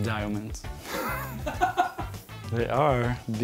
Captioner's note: off-screen: ahahaha